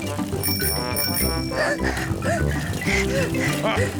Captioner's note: giggles; rings bell and pants; chuckles